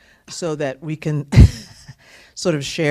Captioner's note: laughter